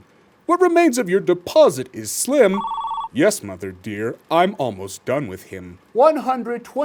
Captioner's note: phone rings